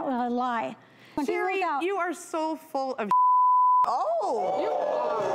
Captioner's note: beep; audience gasping